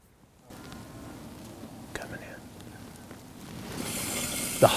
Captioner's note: whispering